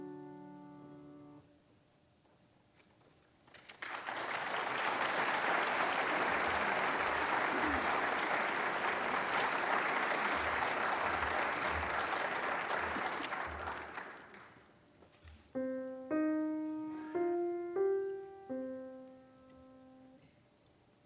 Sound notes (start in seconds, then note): 0.0 gentle piano music; 3.5 applause; 15.5 soft piano chord